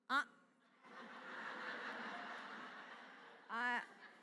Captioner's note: laughter